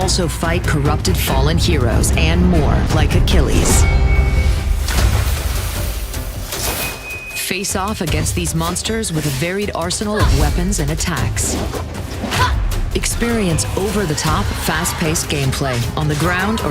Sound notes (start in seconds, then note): 5.2 water steaming